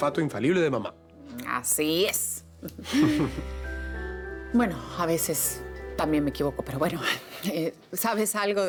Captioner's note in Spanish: Risas